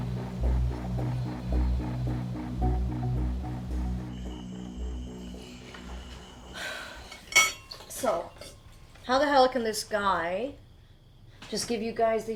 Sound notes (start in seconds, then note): 4.7 insects chirp